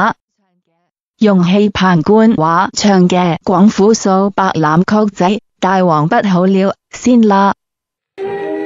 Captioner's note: Mandarin